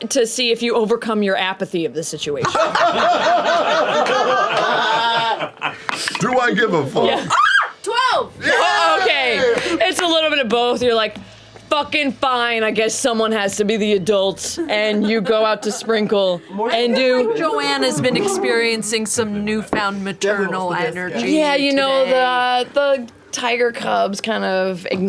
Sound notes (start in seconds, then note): 2.4 laughter; 7.2 screams; 8.4 cheering